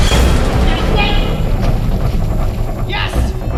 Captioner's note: dramatic music; yelling